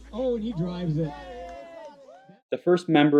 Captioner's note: audience cheering